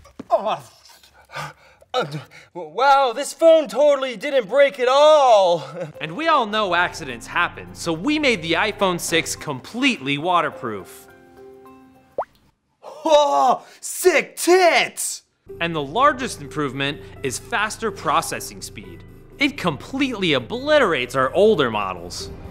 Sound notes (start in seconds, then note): 5.6 weak chuckle